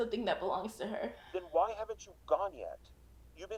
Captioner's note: Casey sighing